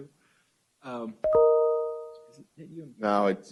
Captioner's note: ring tones